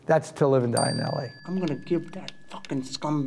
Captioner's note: bell dings